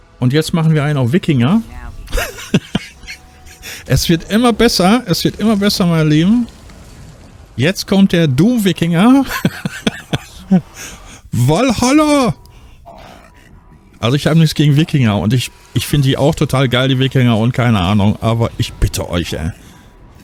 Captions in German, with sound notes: und jetzt machen wir ein auf Wikinger. Es wird immer besser. Es wird immer besser, meine Lieben. Jetzt kommt der Doom Wikinger [gelächter] Wallhalla. Also, ich habe nichts gegen Wikinger und ich finde die auch total geil, die Wikinger und keine Ahnung, aber ich bitte euch, ey.